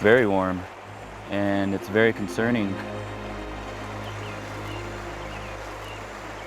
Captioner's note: birds chirping